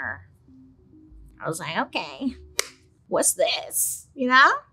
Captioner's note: claps